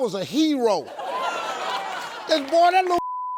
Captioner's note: audience laughs